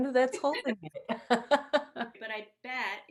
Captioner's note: both laugh